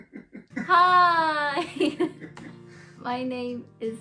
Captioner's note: laughs